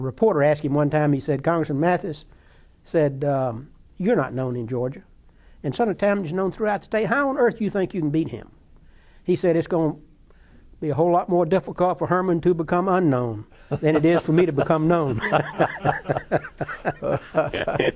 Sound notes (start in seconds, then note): 15.3 laughter